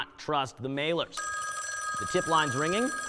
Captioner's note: phone ringing